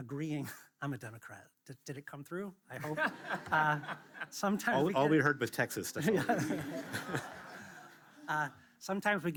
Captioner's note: laughs